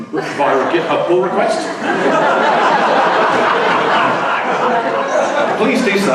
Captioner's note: laughter